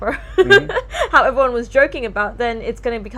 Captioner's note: chuckles